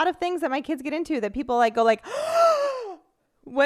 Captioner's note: gasps